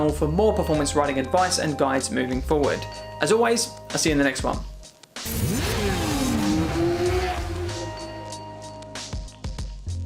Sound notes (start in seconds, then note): 5.2 bike engine roaring; 7.9 gentle upbeat music